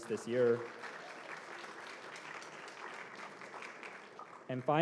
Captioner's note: applause